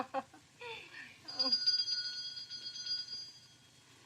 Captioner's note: chuckles; doorbell rings